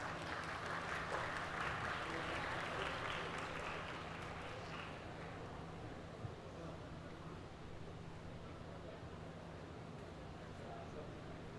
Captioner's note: applause